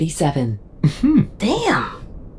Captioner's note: BB, amused chuckle